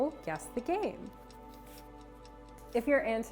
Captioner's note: clock ticking